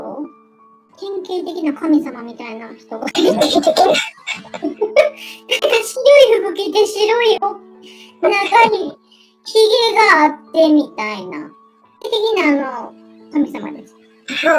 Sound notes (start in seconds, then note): 3.1 laughs